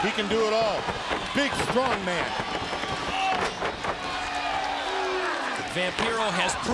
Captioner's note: crowd chatter